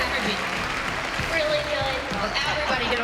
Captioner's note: laughter